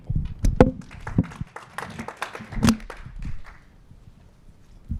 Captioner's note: applause